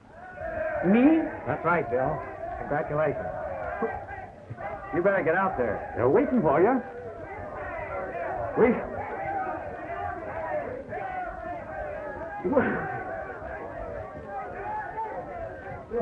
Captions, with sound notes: [cheers from outside] Me? That's right, Bill. Congratulations. But-- You'd better get out there. They're waiting for ya. [people yelling outside] Waiting? Well--